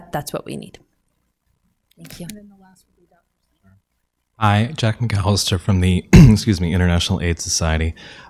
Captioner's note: clears throat